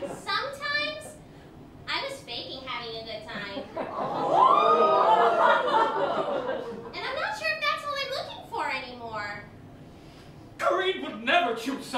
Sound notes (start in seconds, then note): 3.9 audience: "Ooooo!"